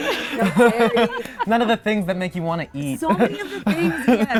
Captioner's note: laughing; laughing